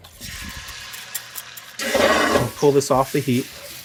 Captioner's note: pan sizzling